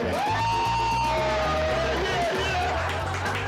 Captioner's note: cheering